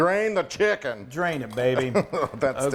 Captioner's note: chuckling